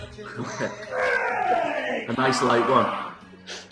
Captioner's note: grunting